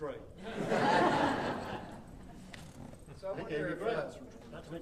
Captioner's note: audience laughing